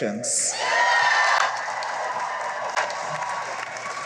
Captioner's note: cheering and applause